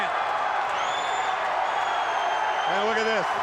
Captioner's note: crowd roaring